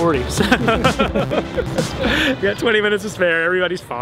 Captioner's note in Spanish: risa